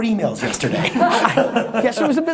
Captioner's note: laughing offscreen